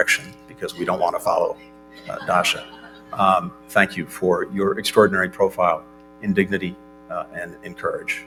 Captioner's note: laughter